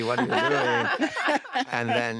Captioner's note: laughter